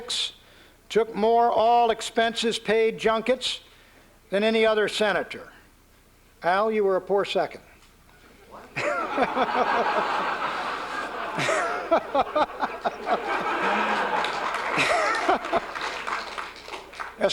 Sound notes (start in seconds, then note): 8.7 laughter; 14.3 applause